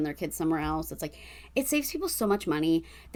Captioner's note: none